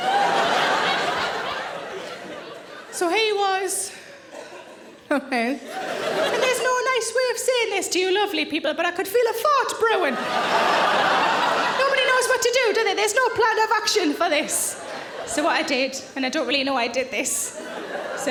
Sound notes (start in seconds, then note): 0.0 audience laughing; 10.2 audience groans